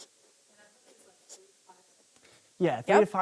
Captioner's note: participant faintly speaking